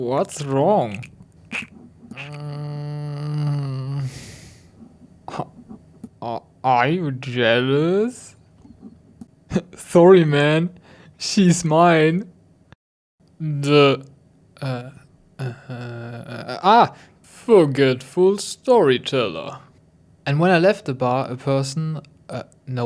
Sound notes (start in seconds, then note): 6.7 wet sounds; 7.7 long exhausted disgusted sigh